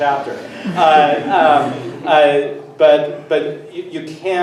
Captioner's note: everyone laughs